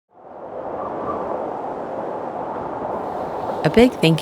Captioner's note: wind blowing